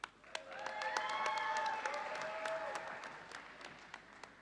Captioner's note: audience applauding